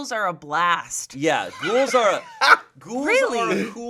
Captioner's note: laughing